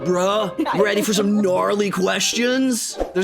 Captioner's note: laughing; surfer voice